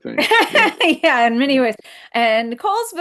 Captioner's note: laughing